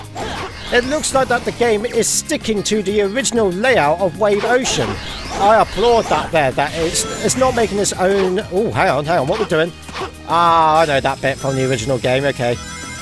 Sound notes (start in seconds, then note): none